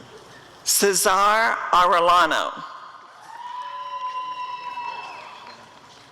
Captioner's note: applause and cheering